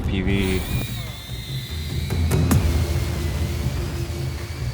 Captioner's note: drone whirring